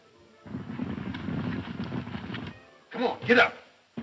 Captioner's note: galloping hooves